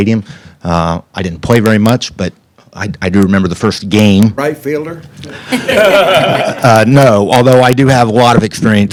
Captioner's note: laughter